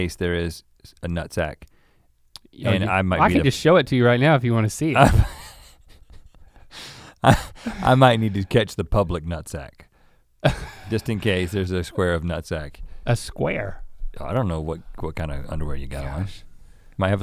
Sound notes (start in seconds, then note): 5.2 Rhett chuckles